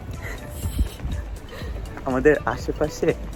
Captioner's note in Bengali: হেসে